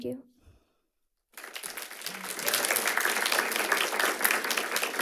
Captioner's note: audience clapping